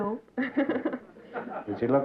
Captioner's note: laughter